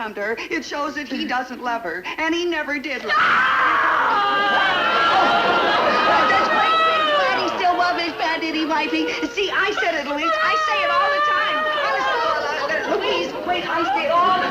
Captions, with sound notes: it shows that he doesn't love her. And he never did. (Louise screaming) - Does great bwig Bwaddy still love his bad itty wifey? See, I said it Louise, I say it all the time. (Louise wailing) Louise, wait, I say it all-